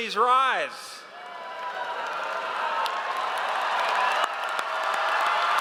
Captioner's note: audience cheers